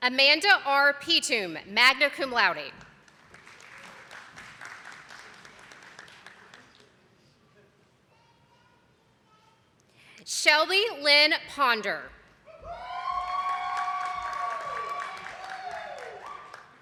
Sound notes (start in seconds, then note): 2.7 attendees clapping; 13.0 audience applauding